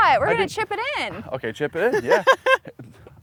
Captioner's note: laughs